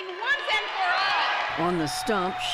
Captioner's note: cheering and applause